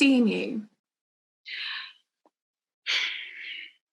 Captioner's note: dice sighs